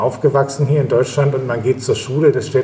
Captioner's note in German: none